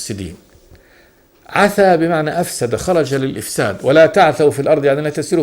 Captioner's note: in Arabic